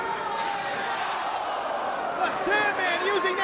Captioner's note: spectators exclaiming